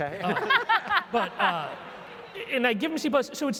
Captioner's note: laugh